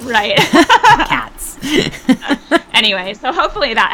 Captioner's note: laughs